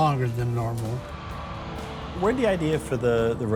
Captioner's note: engine rumbling